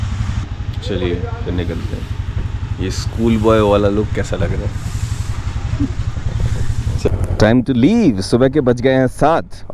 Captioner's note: chuckles